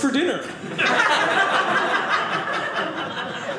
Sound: audience laughing

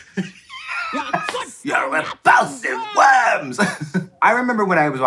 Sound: laughing

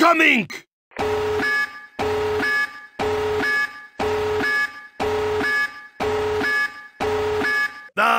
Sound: alarm Buzzing

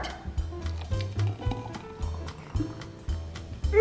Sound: juice pouring; upbeat jazz music

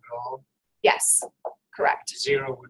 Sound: voiceover

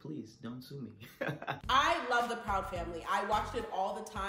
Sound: laughs

